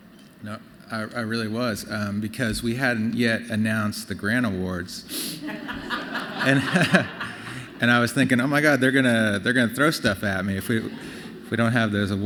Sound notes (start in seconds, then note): 5.4 laughter